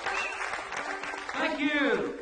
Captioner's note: audience applause